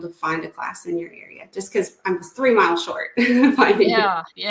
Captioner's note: chuckles